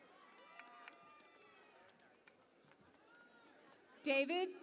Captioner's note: cheering and Applause